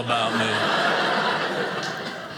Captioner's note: audience laughing